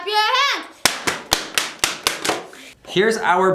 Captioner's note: clapping